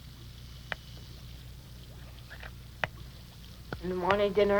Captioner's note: water bubbles